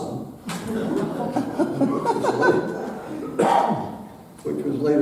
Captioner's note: audience laughing